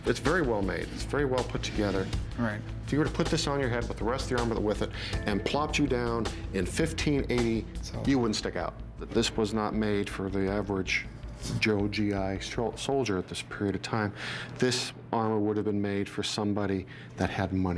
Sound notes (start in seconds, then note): none